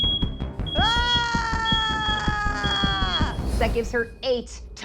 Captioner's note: screaming